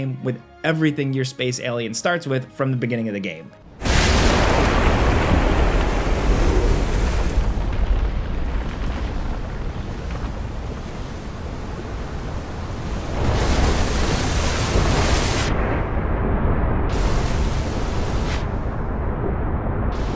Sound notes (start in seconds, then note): 3.8 explosion blasts; 13.4 water crashing; 17.1 water splashing